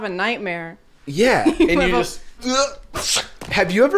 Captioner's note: slicing sound